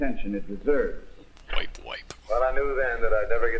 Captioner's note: quietly